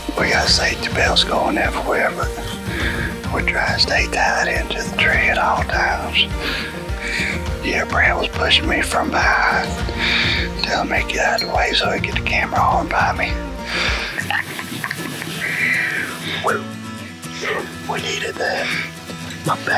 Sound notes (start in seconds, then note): 13.7 laughs